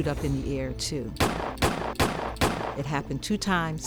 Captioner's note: gunshots fire